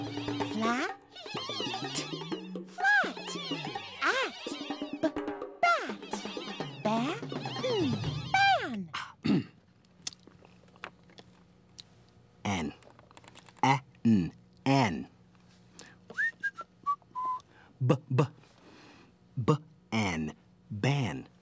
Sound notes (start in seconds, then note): 16.0 makes B sound; 16.1 whistles